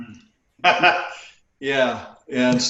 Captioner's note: laughing